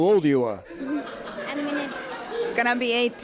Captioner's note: laughter